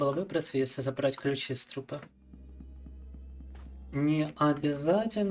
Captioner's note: speaking in Russian